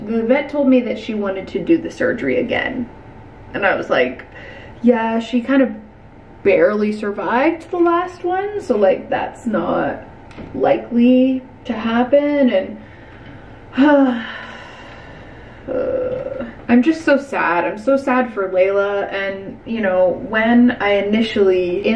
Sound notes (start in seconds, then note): 13.8 sighs; 15.6 groans